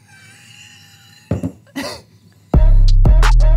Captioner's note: snickers